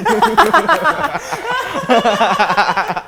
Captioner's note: laughing